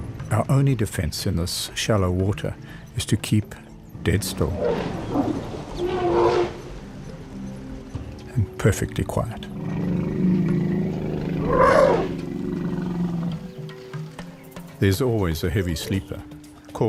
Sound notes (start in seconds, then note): 4.1 elephant trumpets; 9.4 rumbling; 11.4 trumpets